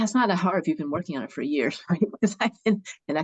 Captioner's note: chuckles